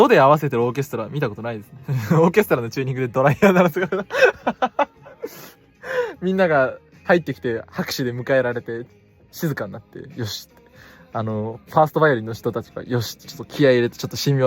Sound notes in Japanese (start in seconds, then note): 3.3 笑い